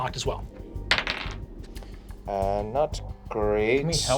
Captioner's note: dice bouncing